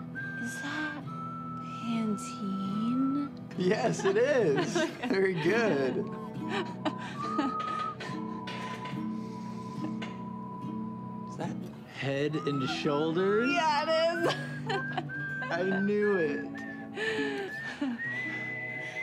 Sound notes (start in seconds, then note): 3.6 laughing; 7.9 sniffs; 14.2 laughs